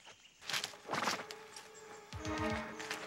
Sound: leaves crunching; suspenseful music

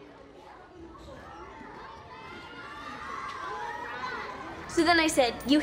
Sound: students cheering

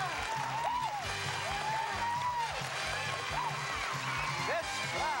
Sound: cheers and applause

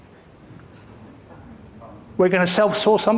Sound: audience member murmuring

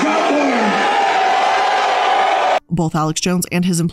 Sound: crowd cheers

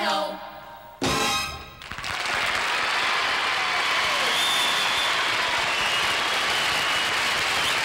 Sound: applause

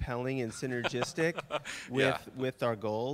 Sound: laughing

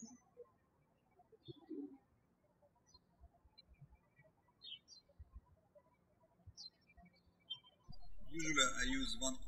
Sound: birds chirping

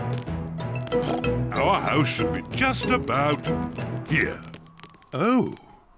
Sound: oinks

